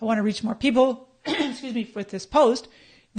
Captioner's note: coughs